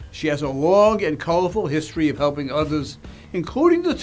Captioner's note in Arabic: none